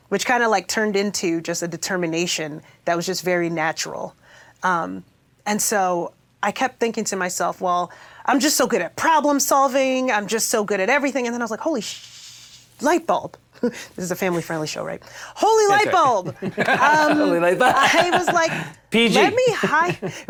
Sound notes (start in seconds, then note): 15.6 chuckles; 18.1 laughs